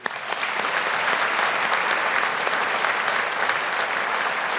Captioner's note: audience applauding